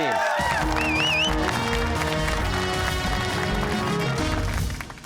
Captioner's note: cheers and applause